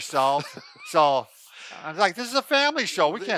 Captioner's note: laughs